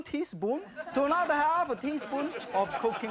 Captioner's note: audience laughs